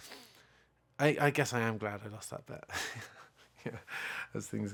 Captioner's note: laughing